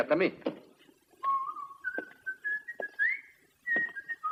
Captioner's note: Jock whistles